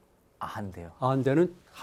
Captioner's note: speaking in Korean